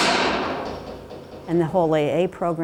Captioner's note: door shuts